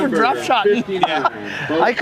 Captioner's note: laughter